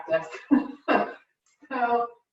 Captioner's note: laughs